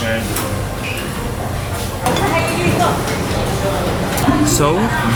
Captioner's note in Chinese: 人们闲聊